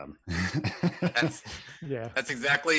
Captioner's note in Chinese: 笑声